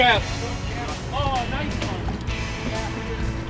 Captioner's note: murmuring